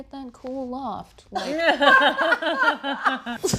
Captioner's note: laughter